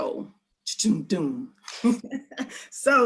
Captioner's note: laughing